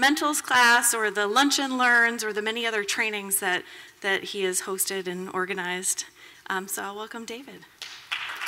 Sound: applause

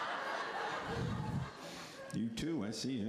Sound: laughter

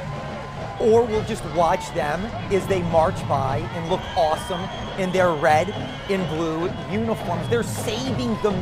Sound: sounds of the parade

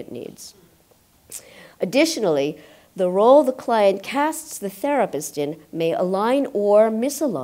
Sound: clicks tongue

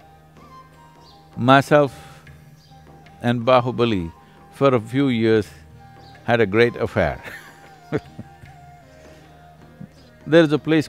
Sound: laughs

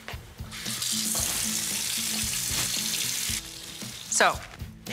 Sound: rushing water

